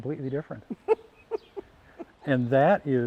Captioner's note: laughing